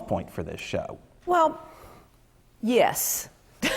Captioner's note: laughter